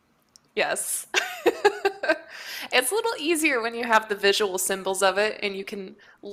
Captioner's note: laughs